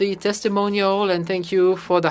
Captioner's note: speaking French